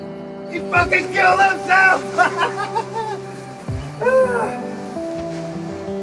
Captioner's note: gentle music; laughs